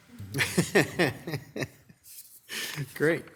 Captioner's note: laughing